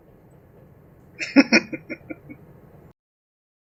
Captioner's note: chuckling